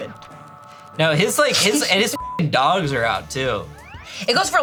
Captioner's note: beep